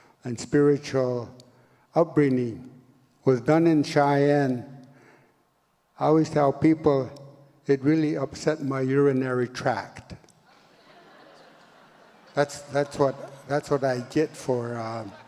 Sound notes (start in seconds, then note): 10.5 audience laughs